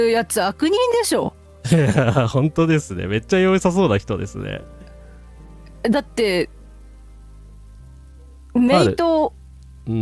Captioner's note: laughter